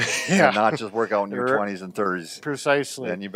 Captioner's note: laughs